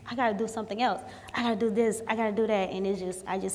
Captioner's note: snaps fingers